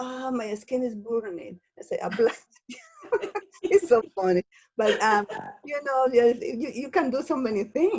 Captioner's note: laughs